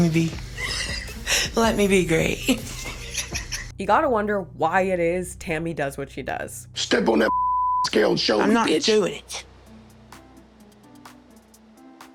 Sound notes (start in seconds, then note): 2.4 laughs; 7.2 beep